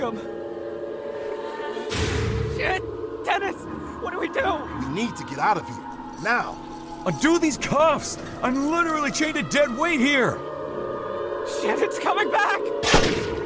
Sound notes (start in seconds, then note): 11.4 shrieks